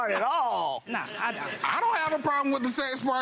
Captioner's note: audience laughs